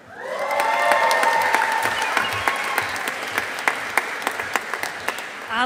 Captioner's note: audience applauding